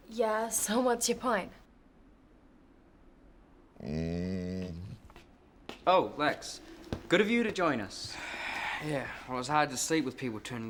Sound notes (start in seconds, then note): 3.8 groaning